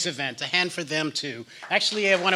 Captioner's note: applause